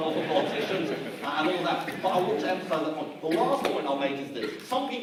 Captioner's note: audience laughs